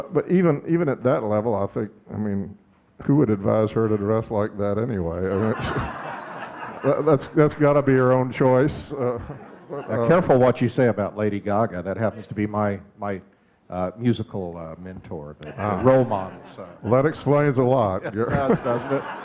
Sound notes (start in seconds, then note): 5.2 audience laughing; 17.8 audience laughing